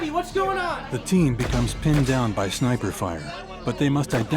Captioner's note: voiceover